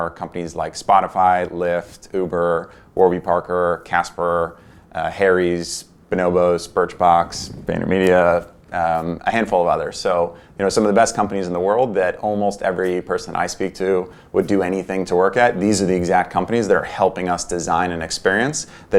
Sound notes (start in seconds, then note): none